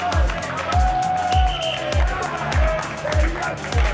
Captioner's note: whistle blowing; students cheer and applaud; upbeat electronic music